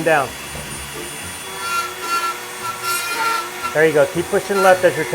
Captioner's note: Dremmel buzzing